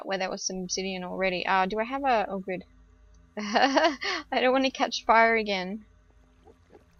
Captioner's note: laughs